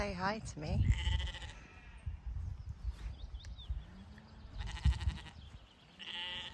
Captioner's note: sheep bleating